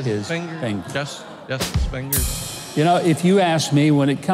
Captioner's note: audience laughs